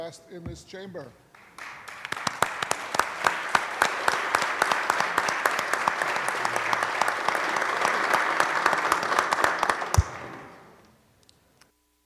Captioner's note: applause